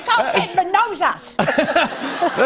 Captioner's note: laughter